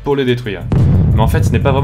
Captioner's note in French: explosion